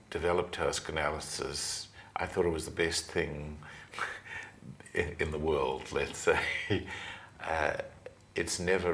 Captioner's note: laughs